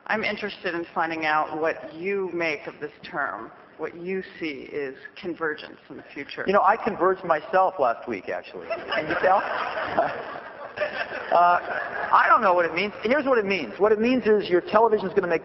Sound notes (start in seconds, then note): 8.6 laughter